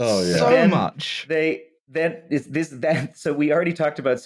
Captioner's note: stammers